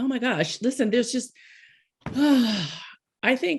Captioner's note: sighs